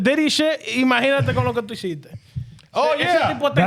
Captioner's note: speaking In Foreign Language